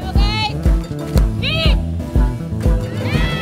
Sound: yelling

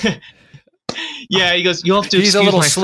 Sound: laughs

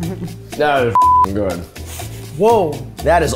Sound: beep

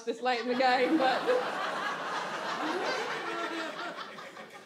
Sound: audience laughs

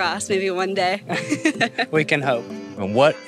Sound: laughs

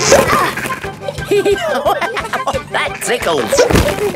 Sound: laughing; giggling

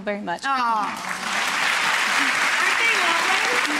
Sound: applause

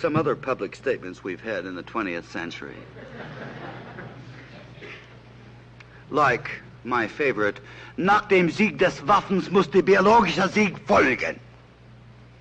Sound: german

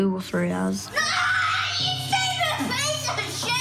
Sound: screaming

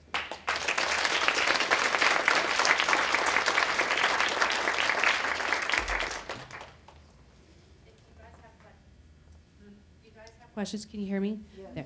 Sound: clapping

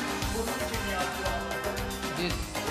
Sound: speaking in farsi

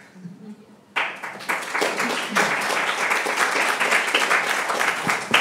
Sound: participants clapping

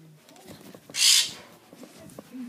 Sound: bird tweets with anger again

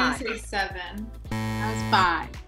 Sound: buzzing sound

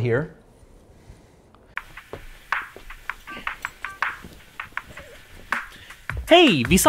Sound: kinky noises

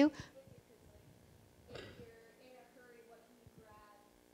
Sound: murmurs

